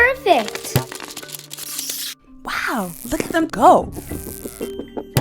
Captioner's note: tape and rubber band sounds